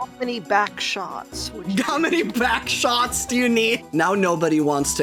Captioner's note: laughing